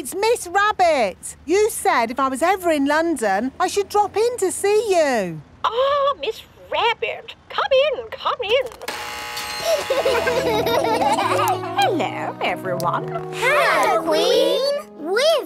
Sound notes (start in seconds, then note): 8.8 gates buzzing; 9.6 kids laughing